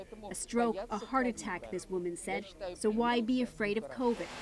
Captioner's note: speaking Foreign Language